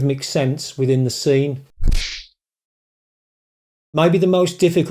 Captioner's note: kung Fu Sound